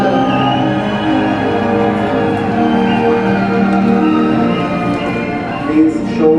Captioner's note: applause